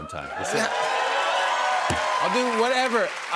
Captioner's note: cheers and applause